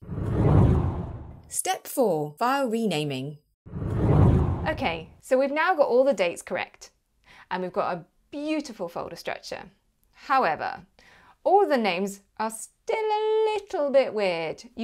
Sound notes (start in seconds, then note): 0.0 air swooshing; 3.7 air swooshing